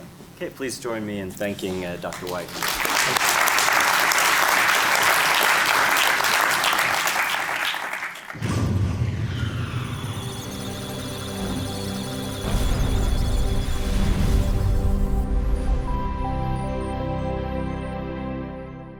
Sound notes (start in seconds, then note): 1.6 applause; 8.6 electronic sounds of data; 10.0 musical tones